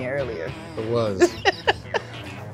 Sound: laughs

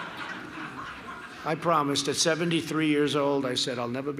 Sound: laughter

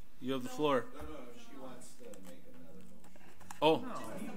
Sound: overlapping chattering

